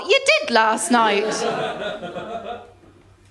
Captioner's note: laughter